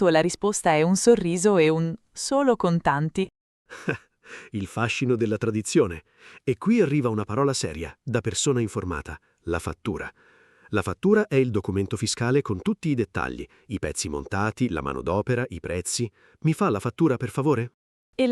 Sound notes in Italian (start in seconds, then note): 3.7 Haha